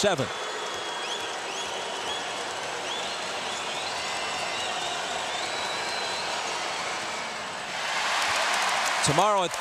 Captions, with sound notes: FOR THE CHANCE TO BRING HIS TEAM TO WITHIN 7. [CROWD CHEERS]